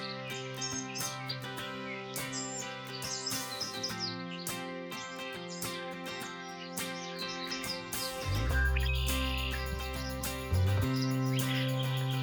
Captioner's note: birds chirping